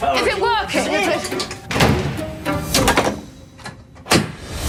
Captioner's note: door closes, locks